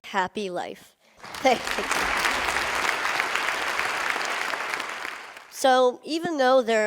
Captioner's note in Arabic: تصفيق